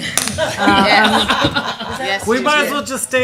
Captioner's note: laughter